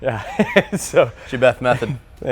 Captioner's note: laughs